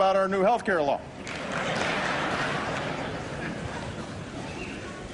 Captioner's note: laughter